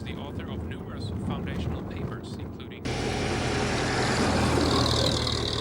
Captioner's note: engine rumbling